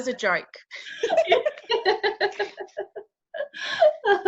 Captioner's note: laughing